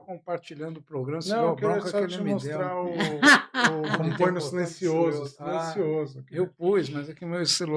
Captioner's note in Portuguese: risadas